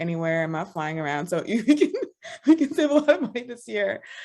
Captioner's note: laughs